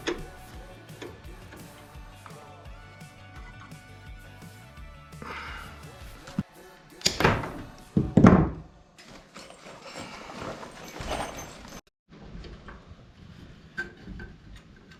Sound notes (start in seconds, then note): 0.0 wood clanking; 3.7 upbeat music; 7.1 wood clanking